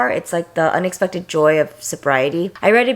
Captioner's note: none